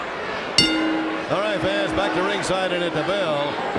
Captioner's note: bell ringing